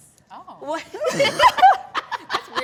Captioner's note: all laugh